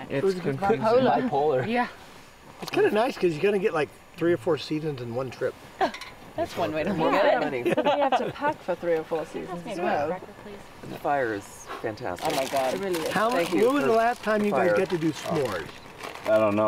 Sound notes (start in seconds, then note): 7.4 laughing; 10.5 chattering